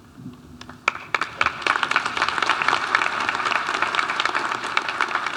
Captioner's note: audience applauding